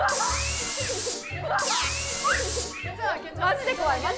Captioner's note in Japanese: おどおど